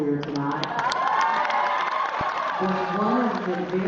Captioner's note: applause